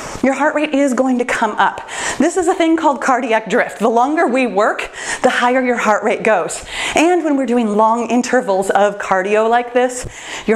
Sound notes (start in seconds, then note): none